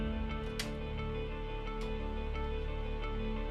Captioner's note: clicking